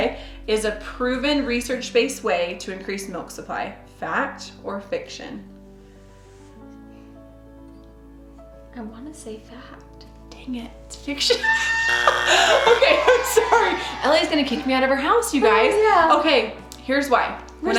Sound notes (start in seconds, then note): 11.3 laughs; 11.4 audience booing; 11.5 buzz